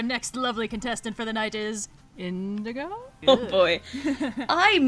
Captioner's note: chuckles; laughs